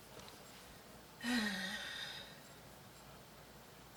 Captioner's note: sighs